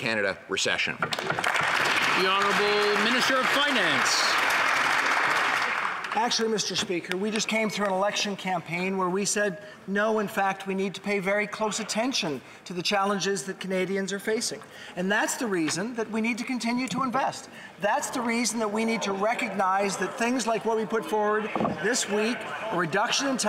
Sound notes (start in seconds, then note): 3.6 some Applause